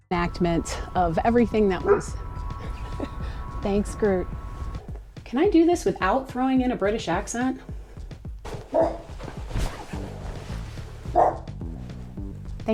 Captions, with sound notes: reenacment of everything that was- [dog bark] thanks, groot can i do this without throwing in a british accent? [dog bark] [dog bark]